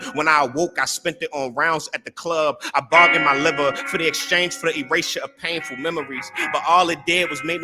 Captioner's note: none